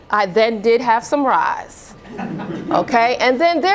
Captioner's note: laughter